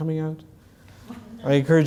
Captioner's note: laugh